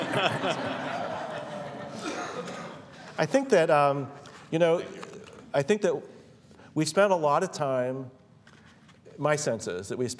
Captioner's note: laughter